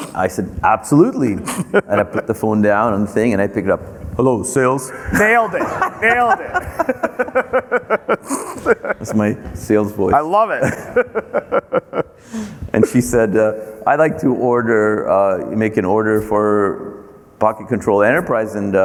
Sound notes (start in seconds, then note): 6.8 both laughing; 12.2 laughs